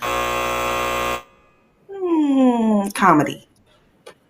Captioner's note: buzzer vibrating